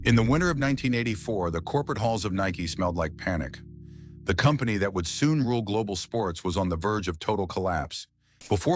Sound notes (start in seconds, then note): 3.5 SFX: low tense hum